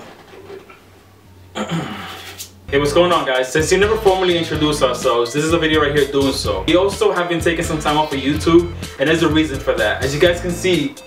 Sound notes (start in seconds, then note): 1.5 clears throat